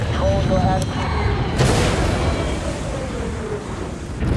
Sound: hissing

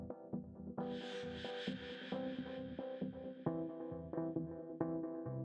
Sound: none

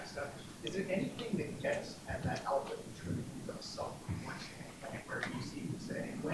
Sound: speaks faintly

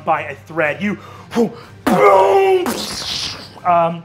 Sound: booming

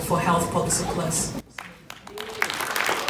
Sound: applause

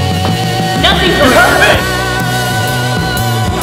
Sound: both Distant sounding

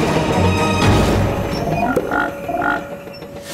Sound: croaking

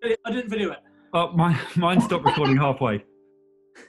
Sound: laughing; giggling

